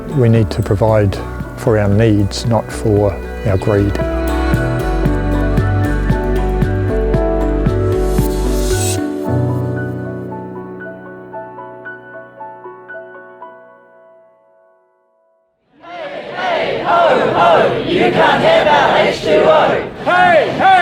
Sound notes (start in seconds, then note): 4.9 crowd chanting